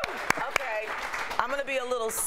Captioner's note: applause